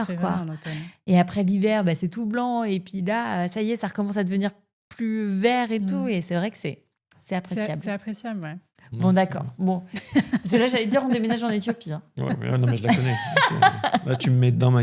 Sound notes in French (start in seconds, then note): 9.9 rires